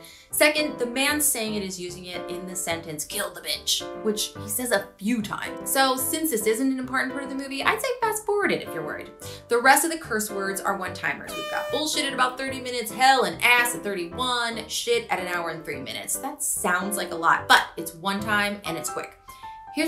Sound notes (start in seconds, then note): 11.3 air horn honks